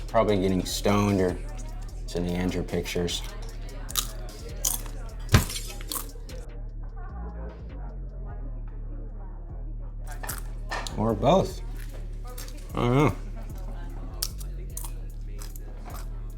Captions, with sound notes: Probably getting stoned or sending Andrew pictures. (people chattering) (boy chomping snacks) (light thudding) (glass shattering) Or both. I don't know.